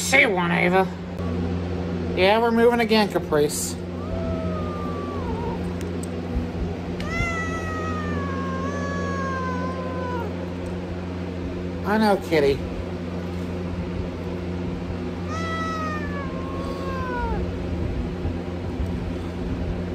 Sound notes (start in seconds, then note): 3.8 Caprice growls and meows; 13.1 Caprice meows in anger